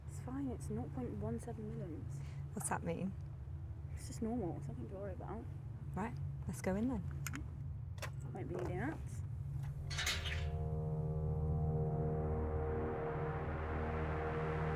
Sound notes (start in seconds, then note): 9.7 gate clanking; 10.4 soft ominous music